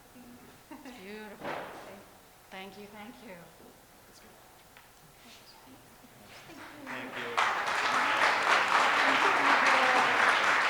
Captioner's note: audience applause